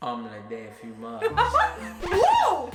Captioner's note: laughing